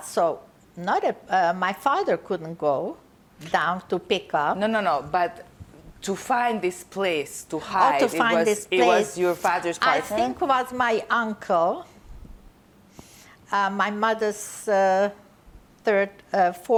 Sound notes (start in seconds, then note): none